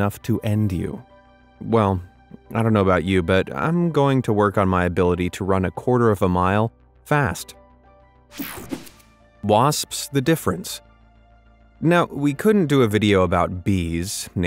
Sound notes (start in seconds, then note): 8.3 picture whooshing